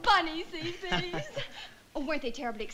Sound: chuckles

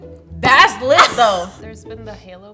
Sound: laughs

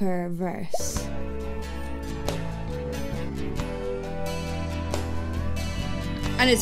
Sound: gentle music; audio pops

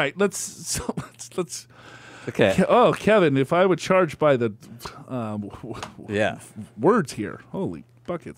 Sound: laughs

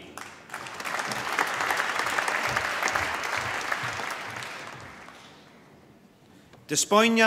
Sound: applause

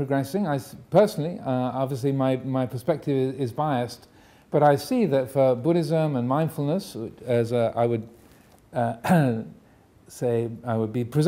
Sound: coughs

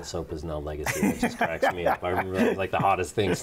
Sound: laughs

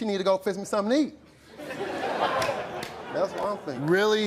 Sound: audience laughs

